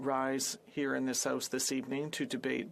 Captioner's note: speaking French